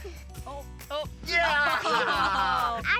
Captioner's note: cheering, laughter